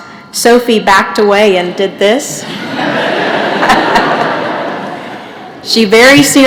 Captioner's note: laughter